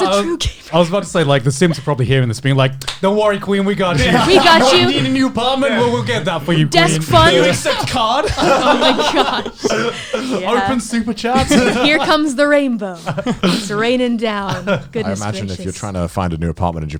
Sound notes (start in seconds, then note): 4.0 laughs; 8.6 laughs